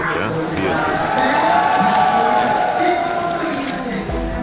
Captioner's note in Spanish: Aplausos y vítores